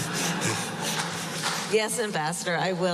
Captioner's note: laughter